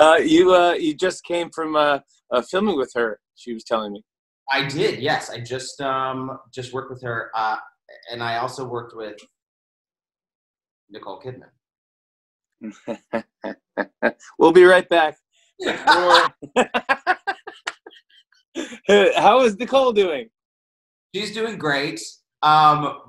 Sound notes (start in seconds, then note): 12.6 chuckles; 15.6 laughs